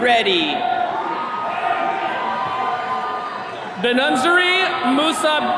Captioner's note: attendees cheering